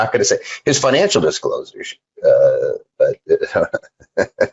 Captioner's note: laughing